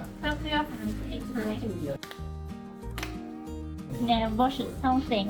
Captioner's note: two claps